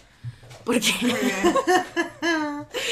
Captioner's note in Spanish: risas